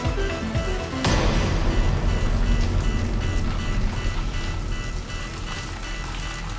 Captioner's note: moves to ominous music; alarm blaring continues